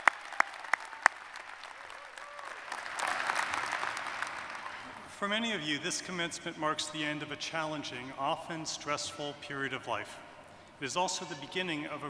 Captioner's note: cheers and applause